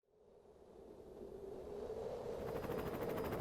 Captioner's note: wind blowing; helicopter blades whirling